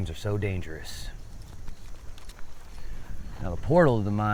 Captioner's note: insects chittering